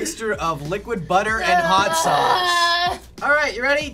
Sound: groans

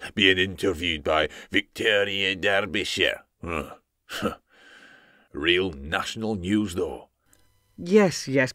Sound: grunt

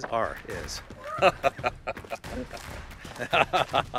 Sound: laughing

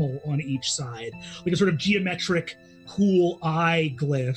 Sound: none

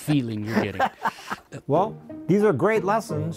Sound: laughing

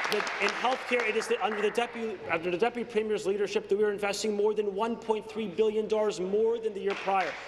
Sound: applause

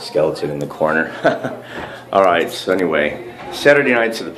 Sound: giggles

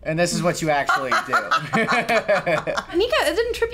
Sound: chuckles; laughs

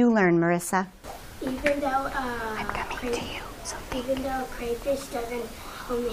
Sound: whispering

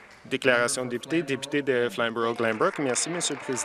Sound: applause

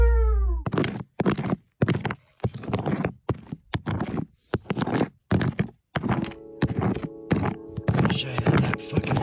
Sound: scraping sound

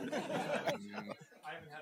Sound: group laughs

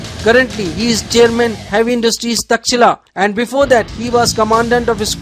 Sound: hit

